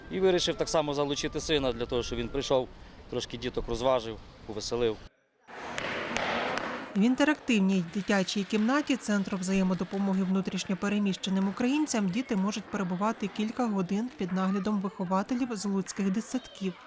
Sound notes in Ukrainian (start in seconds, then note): 5.7 Стукіт молотка